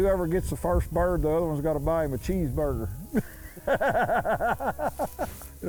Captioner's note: laughs